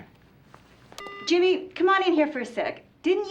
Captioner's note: beeps